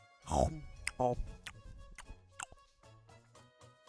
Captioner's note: eating very loudly